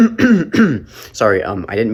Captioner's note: coughs